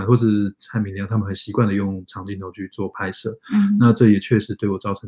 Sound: speaks mandarin

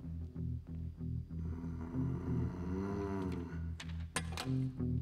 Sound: growl

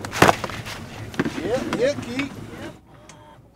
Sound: fish thrashing

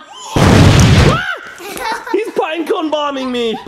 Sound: laughing; explosion; screams

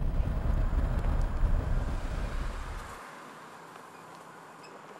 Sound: car engine revving

